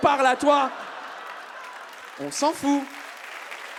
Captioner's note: audience claps